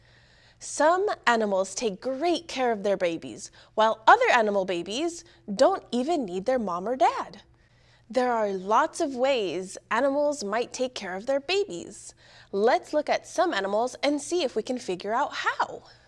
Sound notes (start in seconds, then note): none